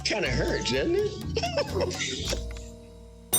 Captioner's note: laughter